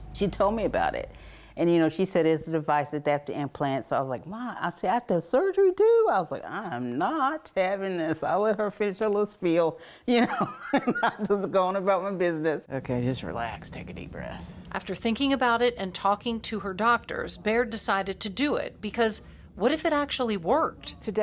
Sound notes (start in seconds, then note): 10.5 laughs